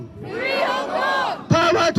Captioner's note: crowd responds "FREE HONG KONG!"